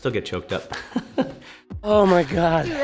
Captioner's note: laughs